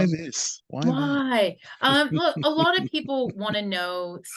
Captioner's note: laughs